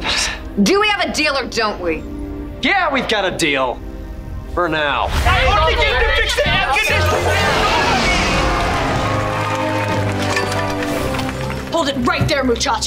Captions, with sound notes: Do we have a deal or don't we? Yeah, we've got a deal! For now, [arguing] Hold it right there, muchachos.